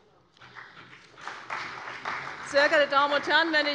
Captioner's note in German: Beifall bei der CDU und dem BÜNDNIS 90/DIE GRÜNEN